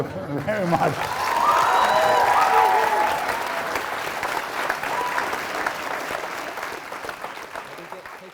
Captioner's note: applause